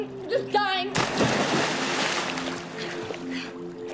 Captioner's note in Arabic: دفقة عالية